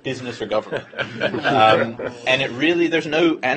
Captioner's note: laughter